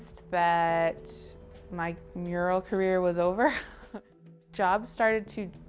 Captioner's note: chuckling